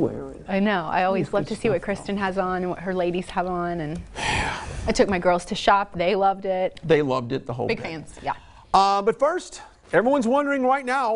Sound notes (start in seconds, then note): 4.2 exhales loudly